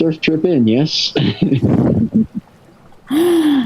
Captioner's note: laughing